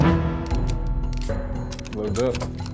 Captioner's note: gun clicking